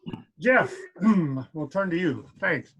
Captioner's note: clears throat